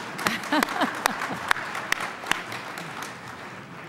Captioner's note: applause